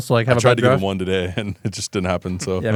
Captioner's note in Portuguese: risos